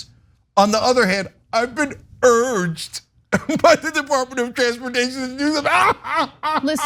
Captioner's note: laugh